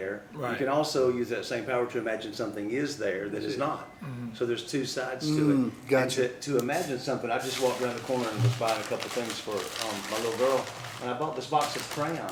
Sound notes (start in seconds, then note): 7.4 sound of bag rustling